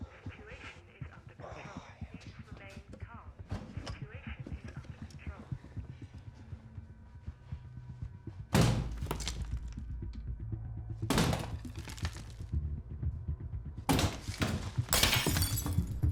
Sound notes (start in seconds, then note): 0.1 intercom voice; 8.5 very loud banging; 11.0 very loud banging